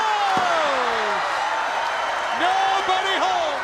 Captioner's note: crowd cheering; crowd whistling